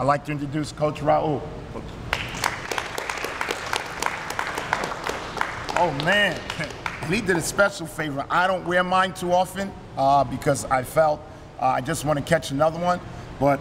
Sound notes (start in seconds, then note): 2.1 applause